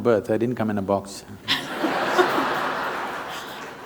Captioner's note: laughter